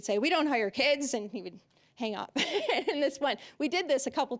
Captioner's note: laughing